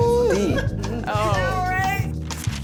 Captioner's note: laughter